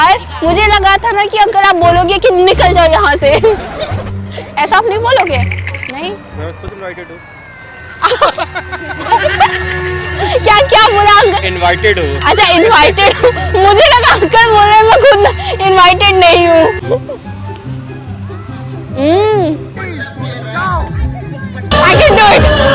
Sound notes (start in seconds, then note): 8.0 laugh